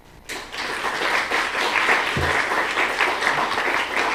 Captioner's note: applause